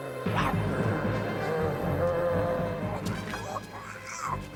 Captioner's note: Paku growls; dramatic music; Tasha babbles